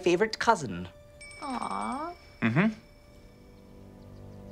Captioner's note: phone ringing